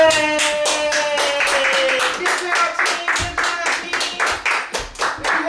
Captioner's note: all cheering and clapping